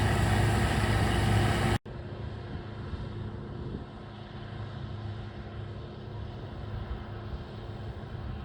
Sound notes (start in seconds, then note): 2.5 fading combine harvester noise